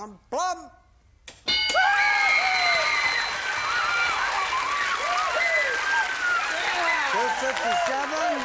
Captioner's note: bell; applause